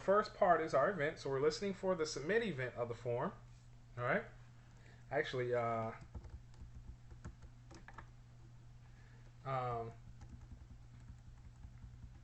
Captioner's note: typing sounds